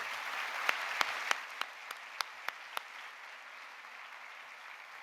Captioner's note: audience applauding